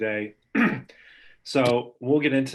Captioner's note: clearing throat